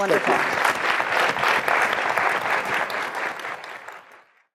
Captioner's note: applause